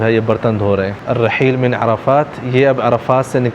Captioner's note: Arabic